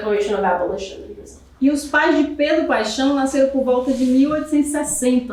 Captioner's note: speaking portuguese